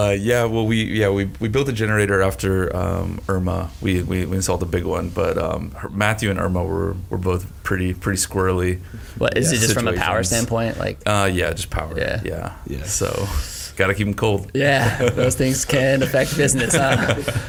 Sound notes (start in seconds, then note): 14.6 chuckles; 17.2 all laugh